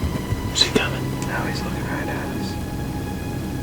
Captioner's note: whispering